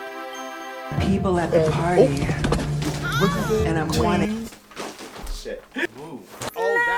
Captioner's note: meme audios overlapped to entrance